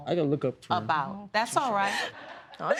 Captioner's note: audience laughing